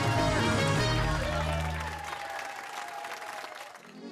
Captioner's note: cheers and applause